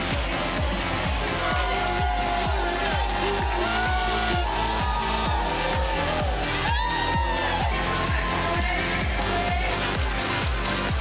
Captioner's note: cheers and Applause